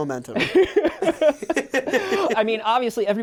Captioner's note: laughing